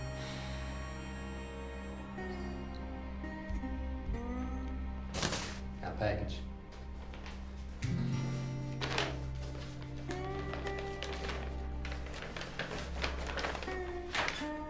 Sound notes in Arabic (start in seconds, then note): 0.2 تنهدات، أصوات بوق القطار في الخارج; 5.0 قعقعة; 9.8 حفيف الأظرف